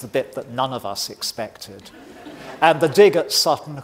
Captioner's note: audience laughing